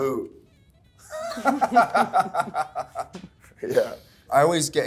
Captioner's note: Callum laughing